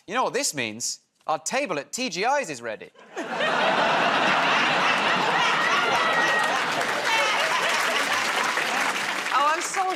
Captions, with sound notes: You know what this means. Our table at TGI's is ready. [ Laughter ] [ Applause ]